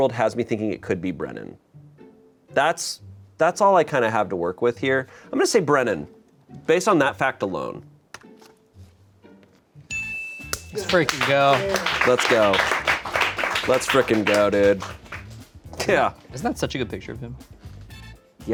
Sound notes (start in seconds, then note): 9.9 bell chimes